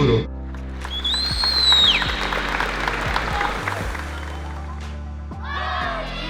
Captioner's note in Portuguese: aplausos